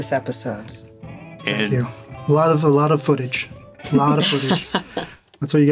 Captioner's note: chuckles